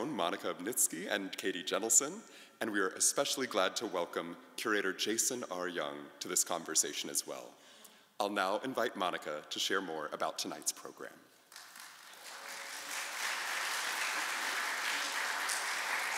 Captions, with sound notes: Monica Obniski and Katie Jentleson, and we are especially glad to welcome Curator Jason R. Young to this conversation as well. I'll now invite Monica to share more about tonight's program. (audience applauding)